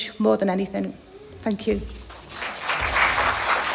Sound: applause

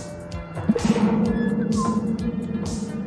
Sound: gurgling

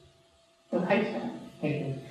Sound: speaking in foreign language

